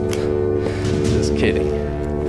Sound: sniggers

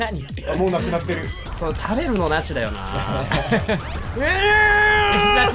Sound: Laughters and a new VTEC engine starting

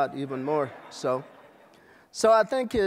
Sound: laughter

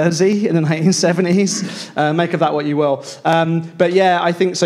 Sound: laughs

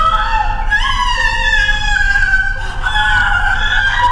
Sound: crying loudly

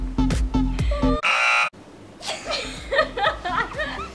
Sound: buzzer; both laugh

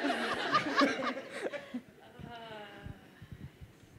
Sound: laughter

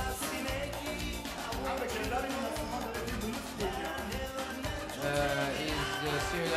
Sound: speaking in farsi

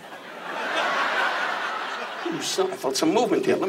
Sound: audience laughs

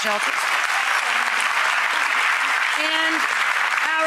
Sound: audience applauds

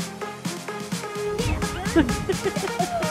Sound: laughter

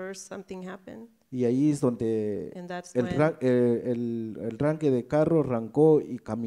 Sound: speaks in foreign language

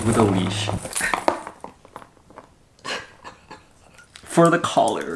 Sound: laughs

